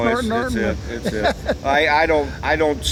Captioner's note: laughs